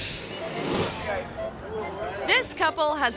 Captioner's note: people chattering; bright elegant music